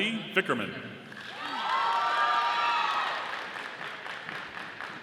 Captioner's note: audience applauding